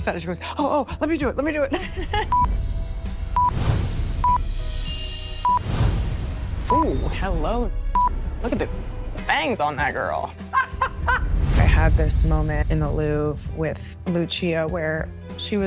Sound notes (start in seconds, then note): 2.0 camera beeping; 10.4 jean laughs